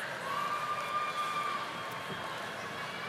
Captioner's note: none